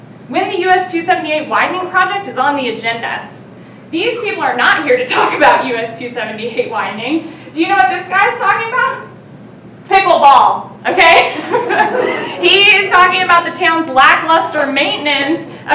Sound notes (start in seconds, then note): 10.9 laughing